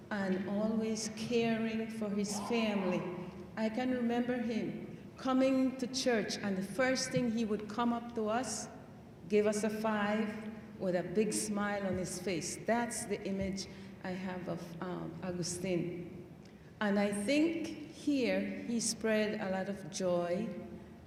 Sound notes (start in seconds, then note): none